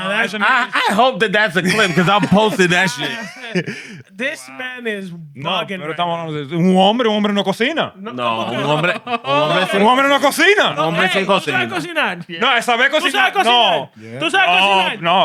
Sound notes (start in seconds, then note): 6.6 speaking Spanish; 8.3 laughter; 8.5 speaking Spanish